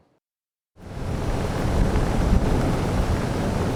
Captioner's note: engine roaring